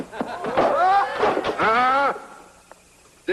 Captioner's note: laughter